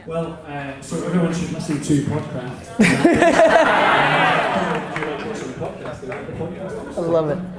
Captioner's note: audience laughter